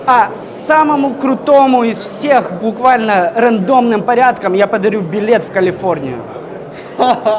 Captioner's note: laughing